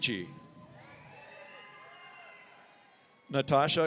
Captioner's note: audience cheering